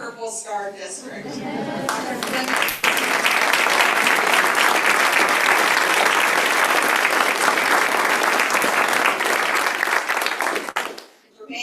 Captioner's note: applause